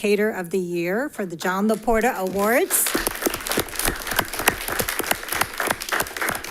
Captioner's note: audience applauding